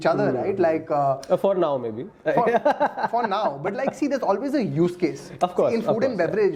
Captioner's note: laughs